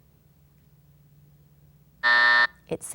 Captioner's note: buzzer sounding